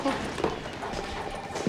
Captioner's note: laughs